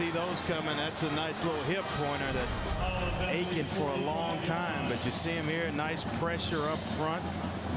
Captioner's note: crowd noise